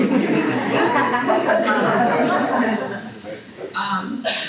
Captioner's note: people laughing